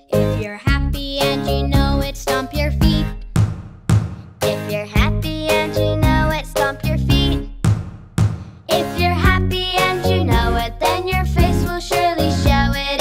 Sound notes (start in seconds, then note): 3.3 booming; 7.5 booming